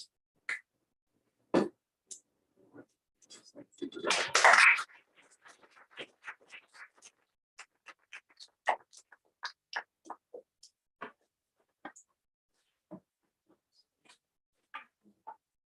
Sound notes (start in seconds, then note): 4.0 applause